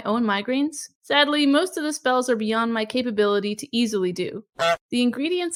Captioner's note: goose honk